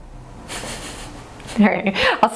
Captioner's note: laughs